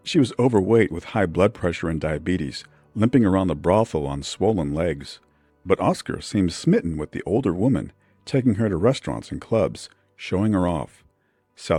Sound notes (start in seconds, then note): none